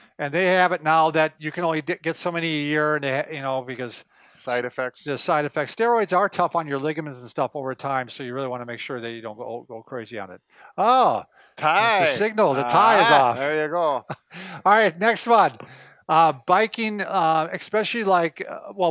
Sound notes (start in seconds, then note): 13.9 chuckles